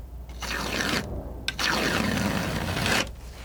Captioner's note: scratching